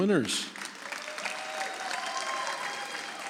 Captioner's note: audience applauds